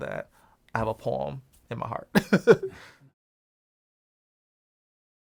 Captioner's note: laughs